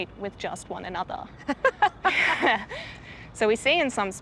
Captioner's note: both laugh